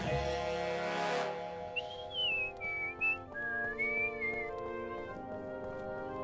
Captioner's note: calm music; whistling